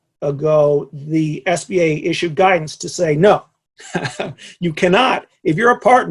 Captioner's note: laughs